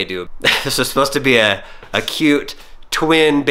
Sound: laughing

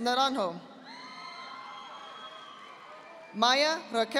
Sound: audience applauding

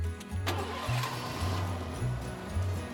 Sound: engine starting

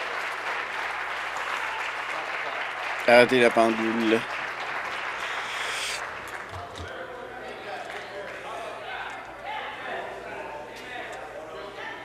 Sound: applause

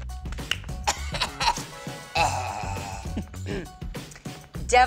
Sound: coughs

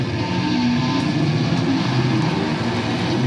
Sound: audience cheers

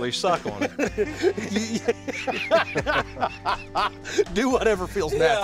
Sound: laughter

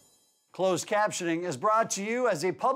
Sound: voiceover

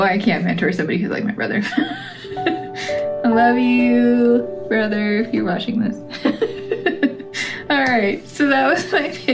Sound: laugh

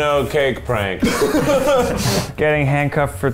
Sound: laughter

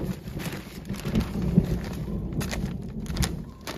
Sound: thunder

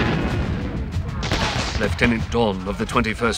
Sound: British accent

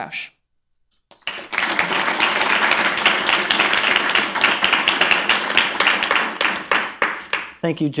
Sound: applause

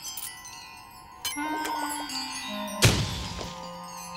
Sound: none

